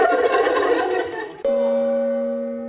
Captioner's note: gong